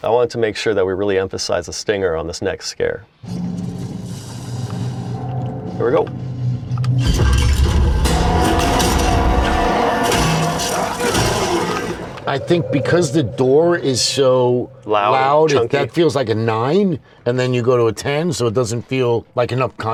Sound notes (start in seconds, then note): 3.3 suspenseful sound; 7.0 loud metallic thuds